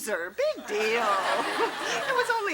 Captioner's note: audience laughs